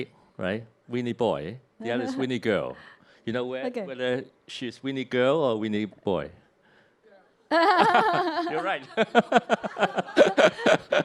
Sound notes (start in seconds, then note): 7.5 both chuckle